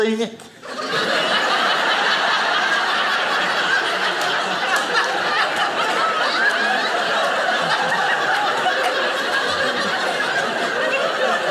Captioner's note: audience laughing